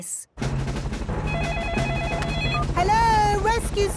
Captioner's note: phone ringing